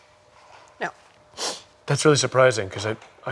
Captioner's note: sniffling